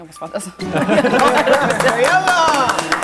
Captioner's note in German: Gelächter